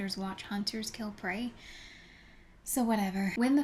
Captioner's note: gratuitous deep inhale